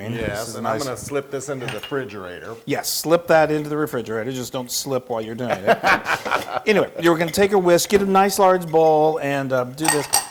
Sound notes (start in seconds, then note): 5.4 laugh